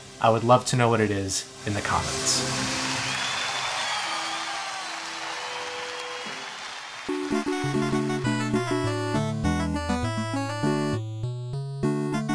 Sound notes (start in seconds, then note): 2.3 audience cheering; 7.1 upbeat music